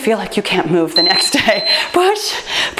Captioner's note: timer beeps; laughs